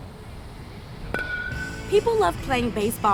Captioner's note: bat smacking